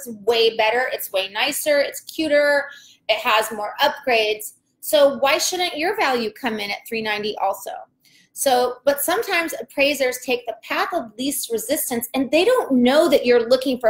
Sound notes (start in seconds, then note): none